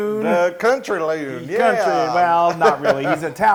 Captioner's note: laugh